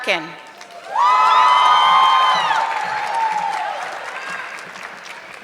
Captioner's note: audience clapping